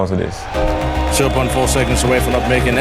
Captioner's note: crowd cheering